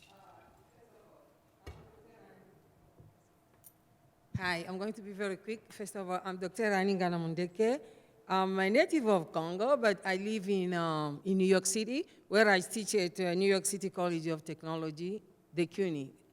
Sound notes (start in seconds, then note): 4.6 voiceover